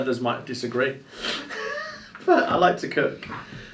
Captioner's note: laughs